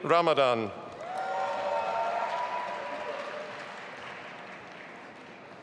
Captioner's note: audience applauding